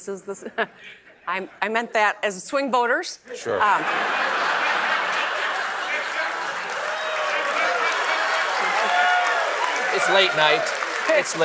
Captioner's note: laughs